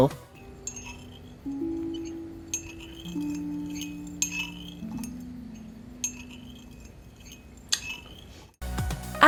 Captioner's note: spoon clinks, clicks his tongue